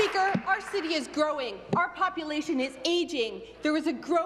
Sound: applause

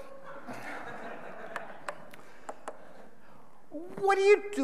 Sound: audience laughing

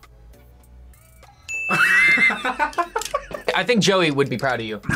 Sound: bell rings; laughs

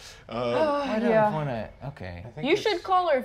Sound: sighs

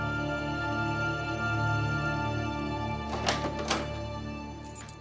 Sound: door opens

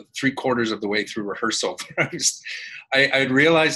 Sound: laughs

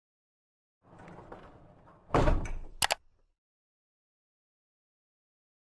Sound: mechanical noises and mouse click

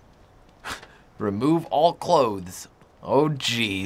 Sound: scoffs

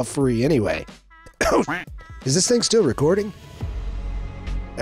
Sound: duck quacks; slow tempo music

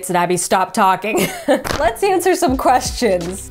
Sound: laughs

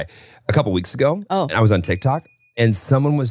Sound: bell dings

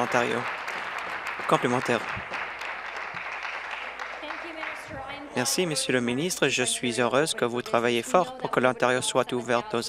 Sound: applause

